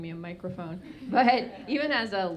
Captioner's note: audience laughing